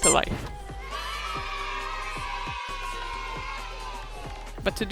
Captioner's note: cheering sounds